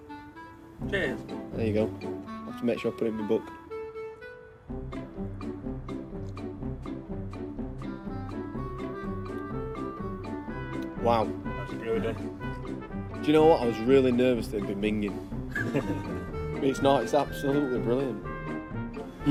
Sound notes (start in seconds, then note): 4.3 lighthearted instrumental music; 15.4 men laughing